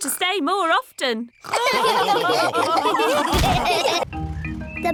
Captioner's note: all laughing